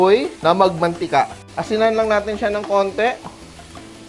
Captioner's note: sizzle